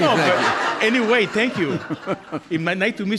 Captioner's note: audience laughing